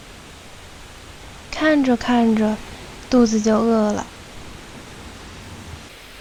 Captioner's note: grumble